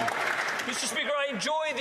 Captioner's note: some Applause